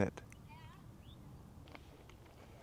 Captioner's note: birds chirping